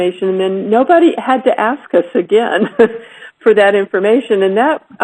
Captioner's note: laugh